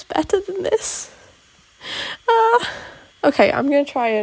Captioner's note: half sob